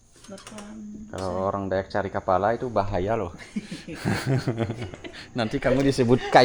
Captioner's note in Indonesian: tertawa